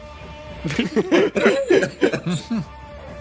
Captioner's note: laughs